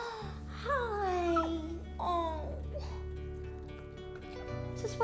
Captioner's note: puffy whines